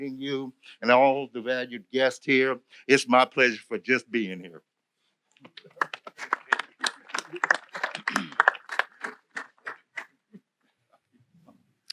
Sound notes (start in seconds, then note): 5.5 applause